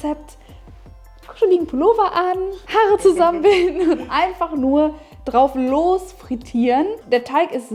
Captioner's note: laughing